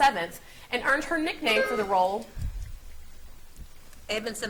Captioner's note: buzzer beeps